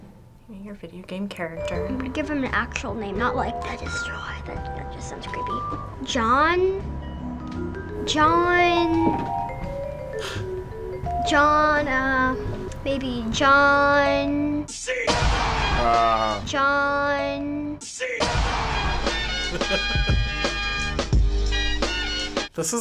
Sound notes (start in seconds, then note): 14.8 voice-over; 18.0 voice-over; 18.3 triumphant music; 19.4 chuckles